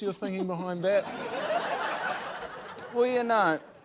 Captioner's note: laughter